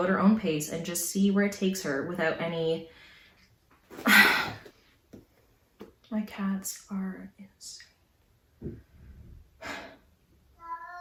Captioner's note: cat meows